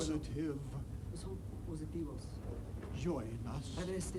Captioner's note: speaks in foreign language